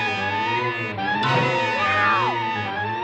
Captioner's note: thumps